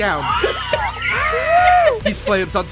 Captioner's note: screams